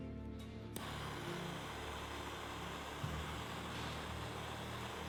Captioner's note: blowtorch whooshing